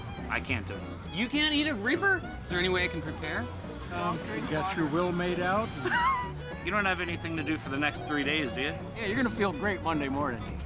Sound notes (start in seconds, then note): 5.7 laughs